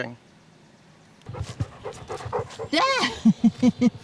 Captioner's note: panting